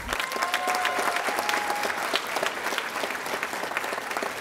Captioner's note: audience applauding